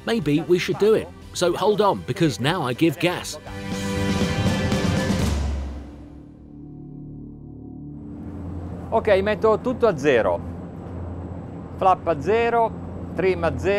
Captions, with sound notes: Maybe we should do it, so hold on, because now I give gas. (speaking in foreign language)